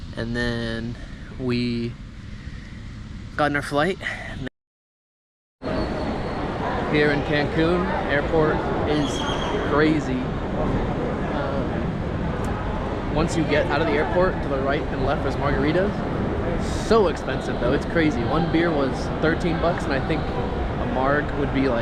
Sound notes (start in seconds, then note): none